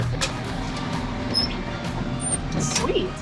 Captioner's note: door squeaking